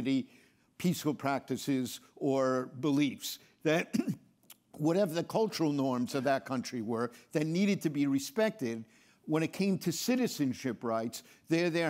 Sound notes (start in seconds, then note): 3.8 clears throat